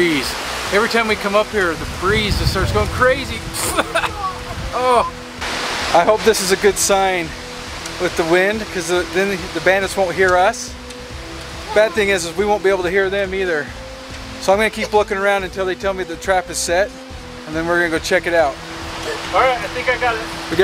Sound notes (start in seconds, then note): 3.6 man coughing